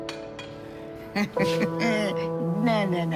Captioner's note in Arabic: تضحك